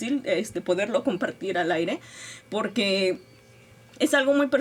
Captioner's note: speaking Spanish